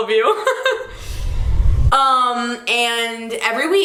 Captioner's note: laughs nervously